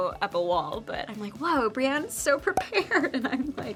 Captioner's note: graphics pop